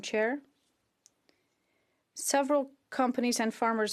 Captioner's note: speaking French